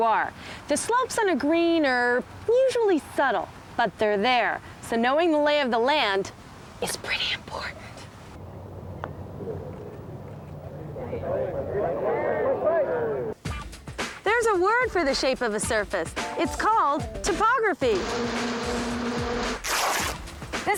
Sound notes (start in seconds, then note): 6.3 whispers; 8.8 crowd murmuring